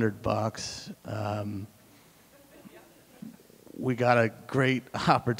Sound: audience chuckling

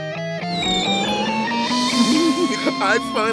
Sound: laughing

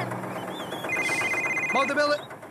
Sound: cell Phone Ringing

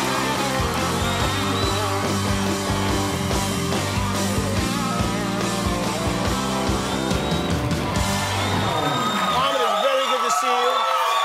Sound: cheers and applause

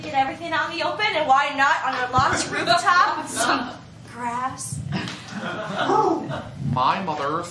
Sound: bird coos

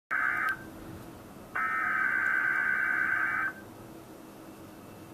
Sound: EAS tones

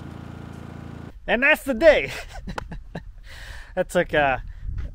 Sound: laughs

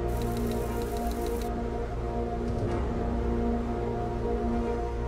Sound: brooding music; text clacking

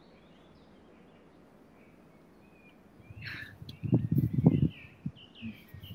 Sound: birdsong

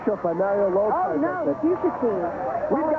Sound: rain

